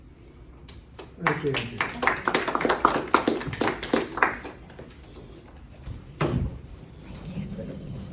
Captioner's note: applause